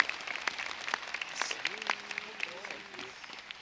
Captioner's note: applause